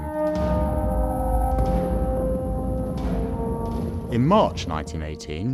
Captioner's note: bombs whistling with dramatic music